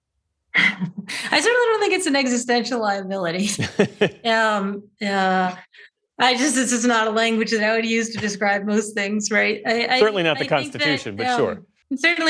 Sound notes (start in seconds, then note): 5.3 laughter